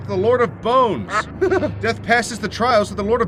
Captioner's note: narrator laughs